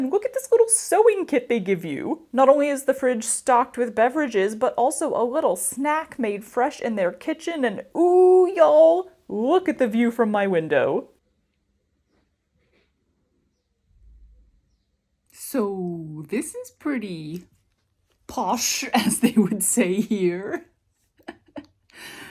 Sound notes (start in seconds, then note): 11.2 quiet nature sounds